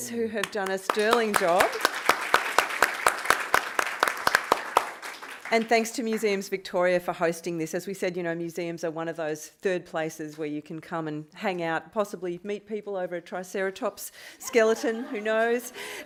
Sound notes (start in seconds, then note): 1.9 applause